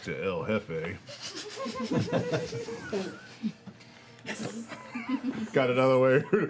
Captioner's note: laughter